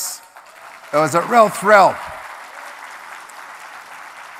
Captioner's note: applause